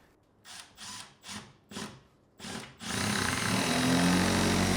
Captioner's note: drill whirring